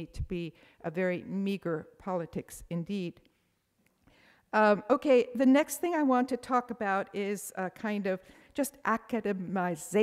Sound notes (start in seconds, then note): none